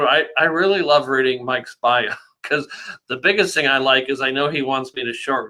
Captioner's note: laughs